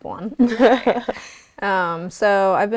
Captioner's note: laughing